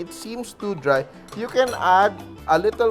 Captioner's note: clang